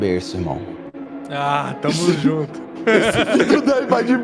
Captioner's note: laughs